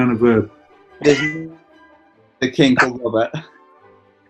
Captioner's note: laughing